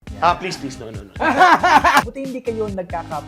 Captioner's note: laughs